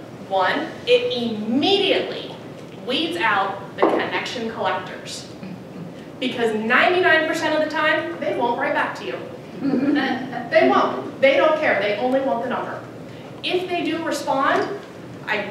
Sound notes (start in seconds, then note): 9.6 audience laugh